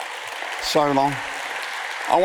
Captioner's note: audience applauds